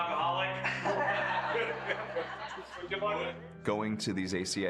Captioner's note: group laughs